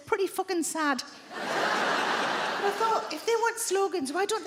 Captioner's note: audience laughing